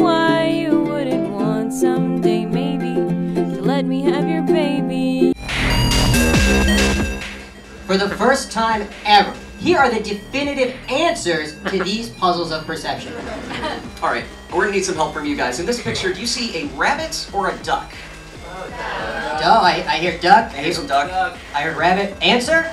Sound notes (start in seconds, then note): 18.4 audience members shouting "rabbit" or "duck"